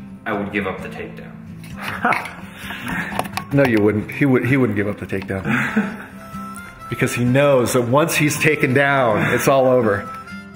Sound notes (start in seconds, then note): 1.8 laughs; 5.4 laughs